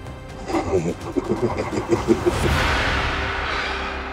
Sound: sinister chuckling

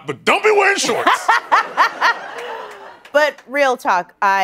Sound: laughing

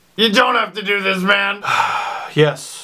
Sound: exhales

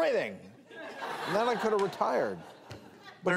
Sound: audience laughter

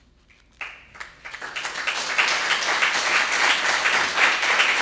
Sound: audience applauding

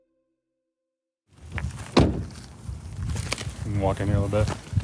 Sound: NAT SOT: Truck door, leaves, wind

